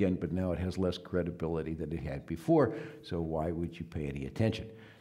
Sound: none

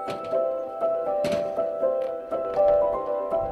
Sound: boxes clank

